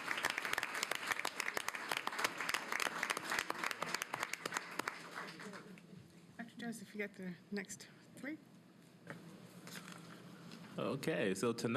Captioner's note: applause